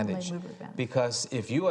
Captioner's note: speaking faintly